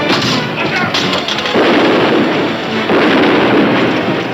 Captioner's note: gun firing